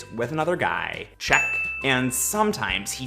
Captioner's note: bell sound